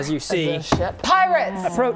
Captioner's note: smack